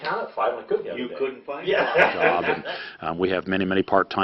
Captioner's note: laughter